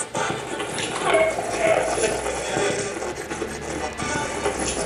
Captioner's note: radio channel changing